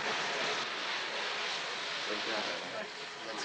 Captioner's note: people Chattering